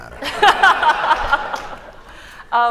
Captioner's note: laughter